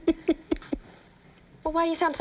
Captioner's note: laughs